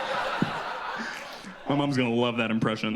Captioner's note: audience laughs